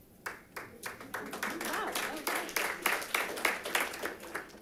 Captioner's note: audience applauding